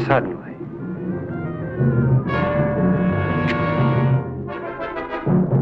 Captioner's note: ominous instrumental music continues; spear shooting